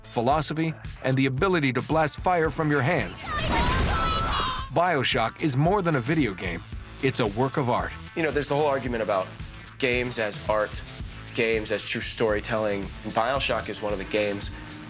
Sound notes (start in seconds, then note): 0.0 gunshots; 3.1 screaming